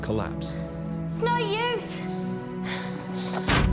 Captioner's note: gasps